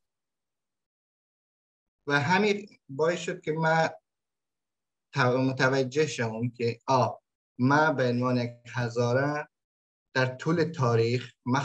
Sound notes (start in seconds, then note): 2.1 speaks in Dari